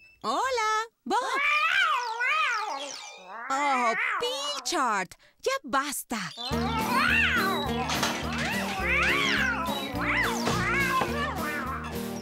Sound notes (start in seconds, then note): 6.5 excited Meowing Continues; 7.2 clatter!; 10.5 thump!